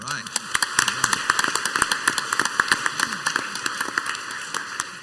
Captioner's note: crowd applauds